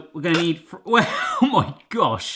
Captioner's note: splattering; laughs